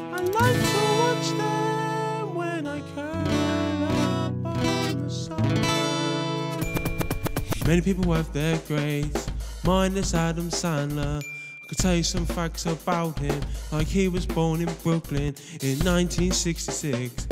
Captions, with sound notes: I like to watch them when I curl up on the sofa [scratching record] Many people have their greats Mine is Adam Sandler I can tell you some facts about him Like her was born in Brooklyn In 1966